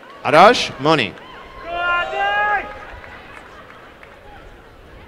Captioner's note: applause and cheering